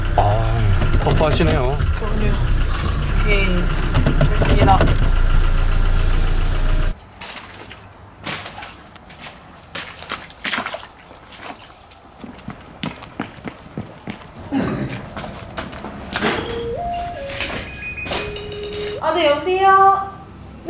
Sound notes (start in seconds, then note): 16.2 phone rings